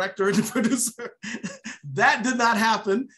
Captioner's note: laughs